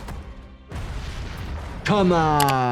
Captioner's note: house exploding